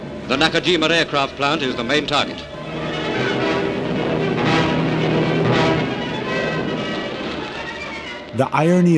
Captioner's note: soundbite of archived recording